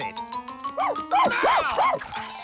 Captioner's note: barking